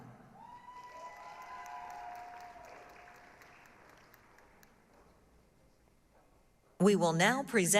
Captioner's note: applause, cheering